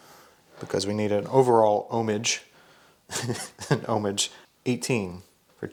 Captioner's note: chuckles